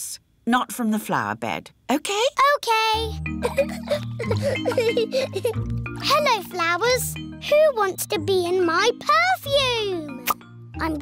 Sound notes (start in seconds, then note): 3.4 giggling